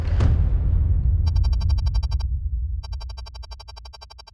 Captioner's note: text typing